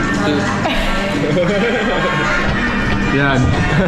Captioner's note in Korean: 빵터짐